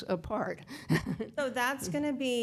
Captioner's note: laughs